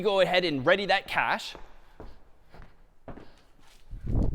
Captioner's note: footsteps